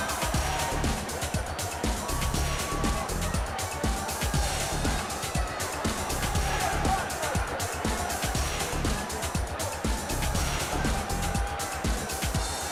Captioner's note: crowd chatter